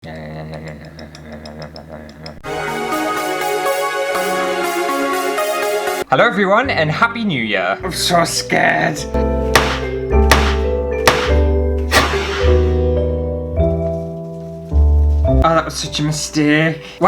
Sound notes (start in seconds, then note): 2.5 intro Music; 11.8 boom